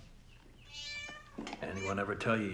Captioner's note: cat meows